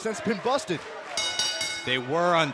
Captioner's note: bell ringing